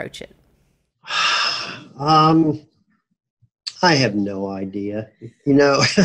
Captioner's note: sighs; laughs